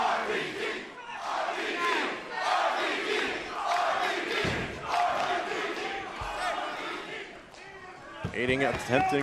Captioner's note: crowd cheering